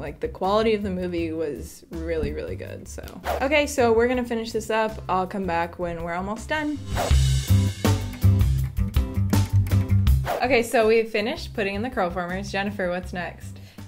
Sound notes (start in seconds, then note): 2.8 swoosh; 6.7 swoosh; 6.7 upbeat music; 10.2 swoosh